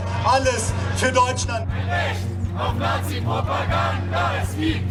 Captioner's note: chanting in German